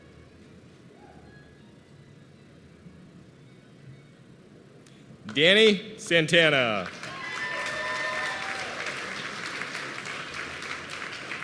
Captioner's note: applause